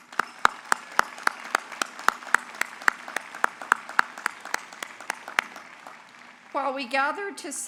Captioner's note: applause